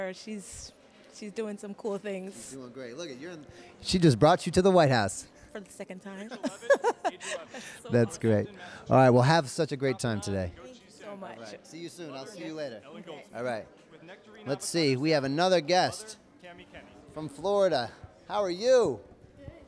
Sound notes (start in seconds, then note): 6.3 laughter